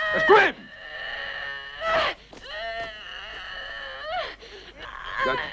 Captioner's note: Hundra grunting